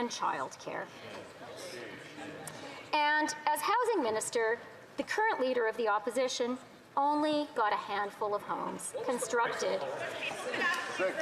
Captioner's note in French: voix de l'interprète